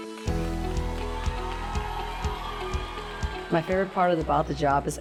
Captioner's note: upbeat music; audience applauding